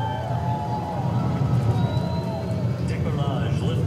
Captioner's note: crowd cheers